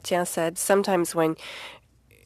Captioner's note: speaking French